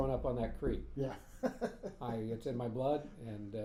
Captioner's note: laughing